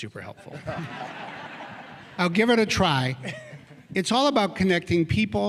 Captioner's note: laughter